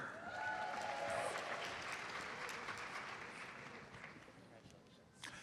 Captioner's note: audience applauds